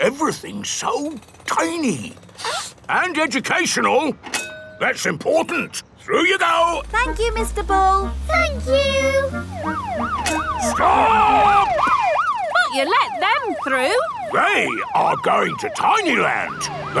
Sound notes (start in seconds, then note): 2.3 sniffs; 8.9 siren wailing